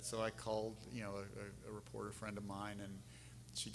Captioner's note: none